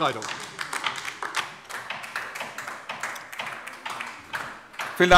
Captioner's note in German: Beifall DIE LINKE